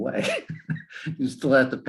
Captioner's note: laughing